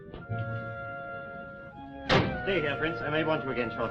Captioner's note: car door slamming